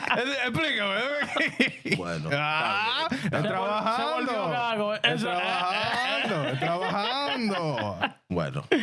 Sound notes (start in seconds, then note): 6.3 speaking In Foreign Language